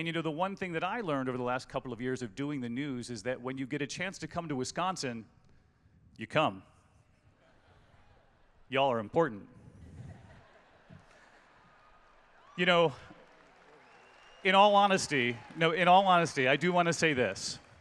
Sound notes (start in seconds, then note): 9.8 laughter; 10.9 cheering and Applause